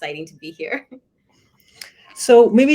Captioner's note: laughter